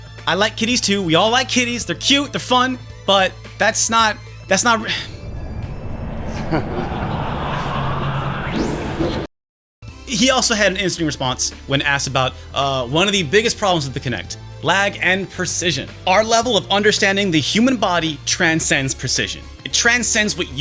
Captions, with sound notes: ... I like kitties too, we all like kitties, they're cute, they're fun, but that's not... that's not- [sigh] [audience laughs] He also had an interesting response when asked about one of the biggest problems with the Kinect: Lag and precision.